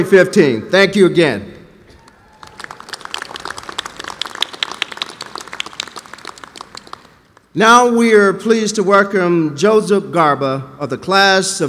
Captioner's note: applause